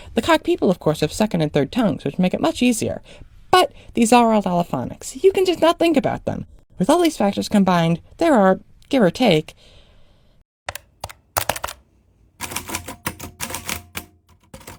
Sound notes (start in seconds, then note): 10.6 calculator sounds; 12.4 typewriter sounds; 14.5 typewriter bzzZZHR- ding